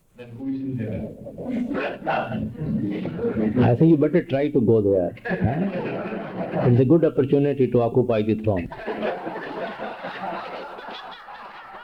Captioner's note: laughter